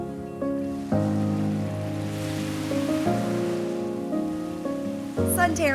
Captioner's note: whoosh; waves crashing on beach